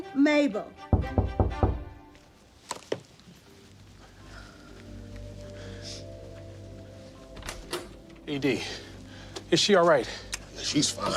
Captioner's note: knock on door